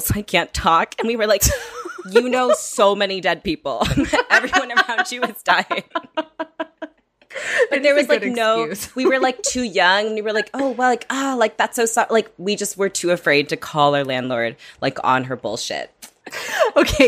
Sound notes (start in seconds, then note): 3.9 laughing